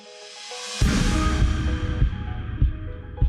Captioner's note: explosion